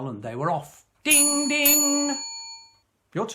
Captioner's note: bus bell rings